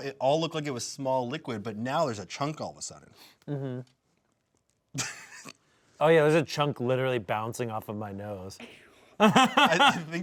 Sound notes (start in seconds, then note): 4.9 laughs; 9.2 laughs